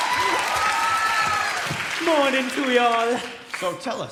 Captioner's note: applause